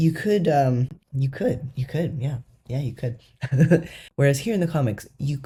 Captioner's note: laugh